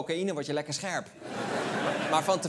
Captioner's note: laughter